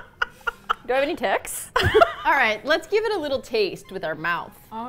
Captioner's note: innocently; laughs